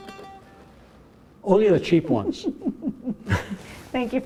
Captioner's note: chuckles